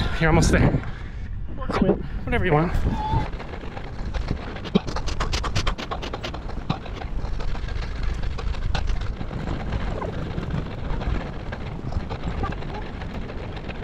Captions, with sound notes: You're almost there. Whatever you want. (water splashing)